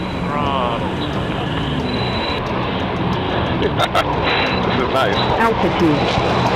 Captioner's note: jet engine roaring